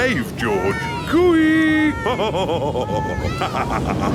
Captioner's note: laughs